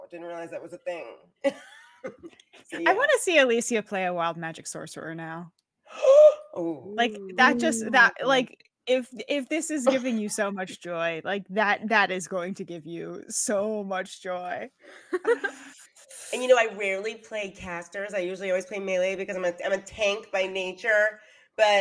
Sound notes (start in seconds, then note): 2.0 laughs; 5.9 gasps; 9.8 chuckles; 15.0 giggles